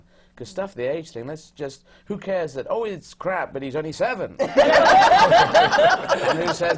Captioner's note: laughter